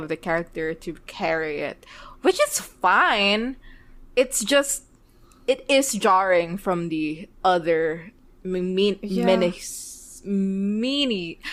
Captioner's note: laughs